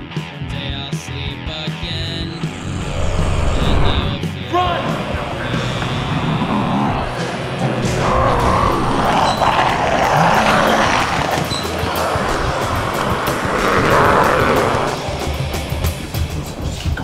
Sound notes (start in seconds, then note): 6.5 zombies clamoring; 12.3 zombies shouting; 14.9 upbeat punk music